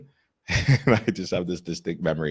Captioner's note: laughs